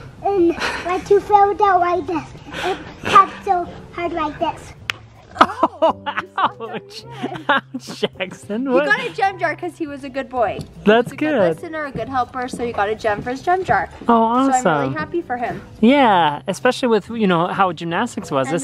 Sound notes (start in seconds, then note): 4.8 slaps